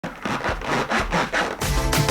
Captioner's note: crunchy Sounds; intro Music